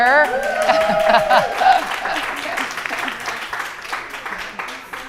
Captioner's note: audience applauding